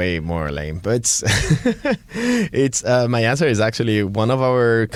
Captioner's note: laughing